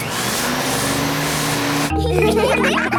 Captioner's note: whirring; all laughing